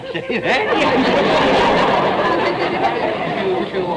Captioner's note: audience laughter